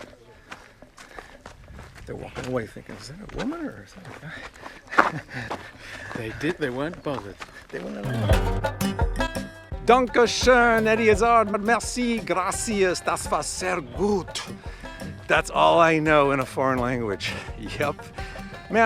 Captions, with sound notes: - They're walking away thinking, "Is that a woman, or is that a guy?" (laughs) - They did - they weren't bothered. - They wanna know. (rhythmic guitar music) - Danke schoen, Eddie Izzard, merci, gracias, das vas sehr gut. That's all I know in a foreign language. Yep.